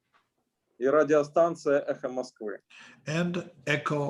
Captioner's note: speaking Russian language